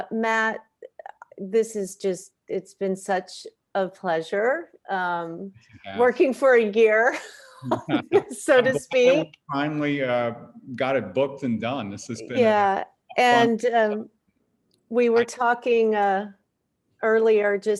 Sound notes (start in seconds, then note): 7.6 both chuckles